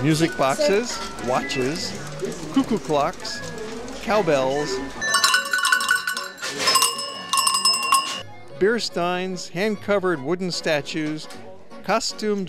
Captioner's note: bell rings